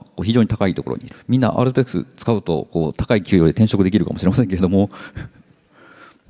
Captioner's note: chuckles